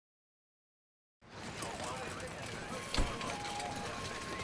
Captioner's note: background emergency services chatter